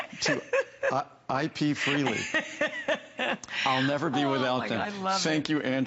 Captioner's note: laughter